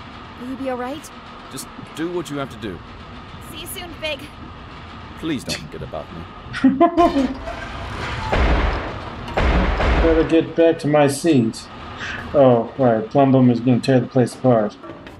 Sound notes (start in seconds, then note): 5.3 scoffs; 5.4 laughing; 7.8 heavy thumping